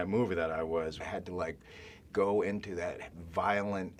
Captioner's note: none